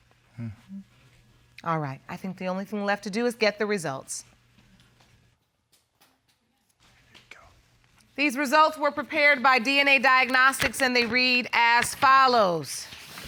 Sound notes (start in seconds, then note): 6.9 whispers